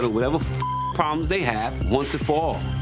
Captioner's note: beep